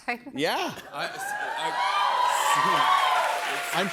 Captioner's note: cheers and applause